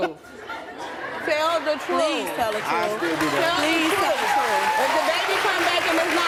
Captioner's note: audience cheering; audience clapping